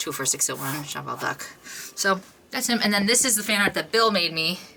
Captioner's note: none